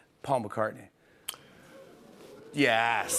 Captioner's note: audience "Oohs"